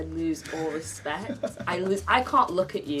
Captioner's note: laughing